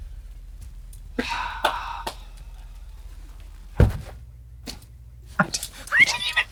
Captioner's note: Katya hee-haws